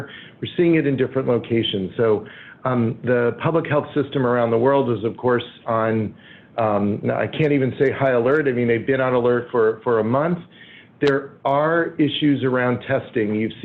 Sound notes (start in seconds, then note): none